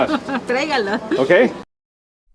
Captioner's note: in Spanish